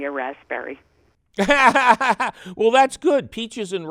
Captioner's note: laughs